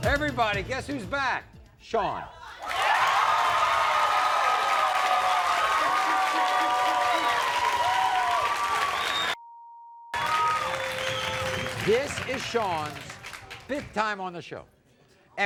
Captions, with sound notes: - Everybody, guess who's back? Shawn. (applause) This is Shawn's fifth time on the show,